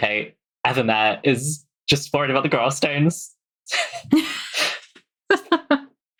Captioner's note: laughs